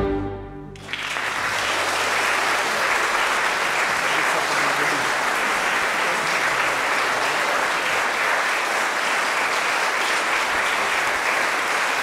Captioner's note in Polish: oklaski